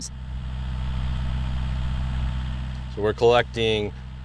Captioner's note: equipment buzzing